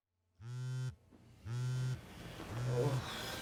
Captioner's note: phone buzzing; grunting